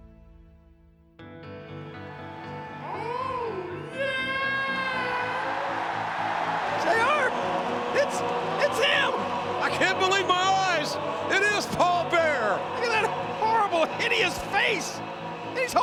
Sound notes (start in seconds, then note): 1.2 heartfelt rock music; 4.5 crowd cheers